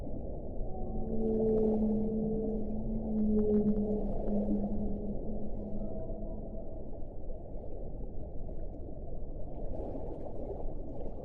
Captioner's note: sounds of whales swimming in the ocean persist throughout the night